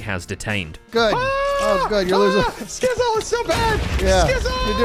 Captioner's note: shouting